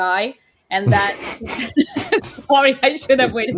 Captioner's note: laughs